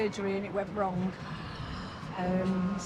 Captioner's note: Theresa gasps